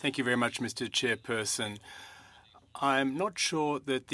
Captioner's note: speaking french